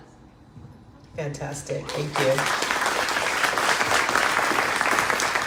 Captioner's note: crowd claps